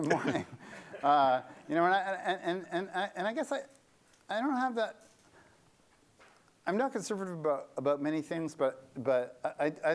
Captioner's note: laughter